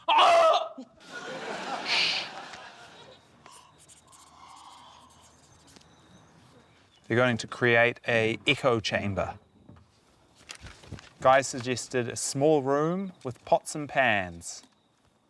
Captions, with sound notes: - (SCREAMS) - Shh. - (GASPS SOFTLY) - They're going to create a echo chamber. Guy suggested a small room with pots and pans.